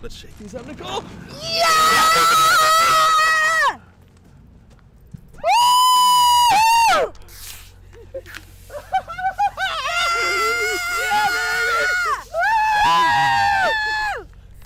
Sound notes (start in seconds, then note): 10.9 cheer